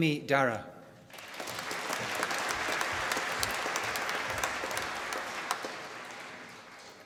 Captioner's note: applause